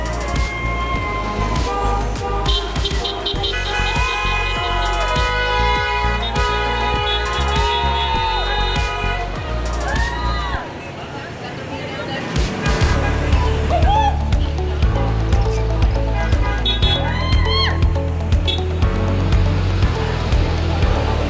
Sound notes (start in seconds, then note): 2.1 horns honking; 8.3 crowd cheering; 13.7 bright music